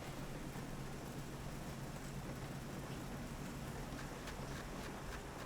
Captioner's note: muffled rain splattering